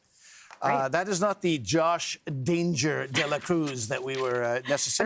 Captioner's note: laughter